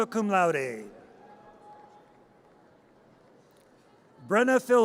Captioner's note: audience cheers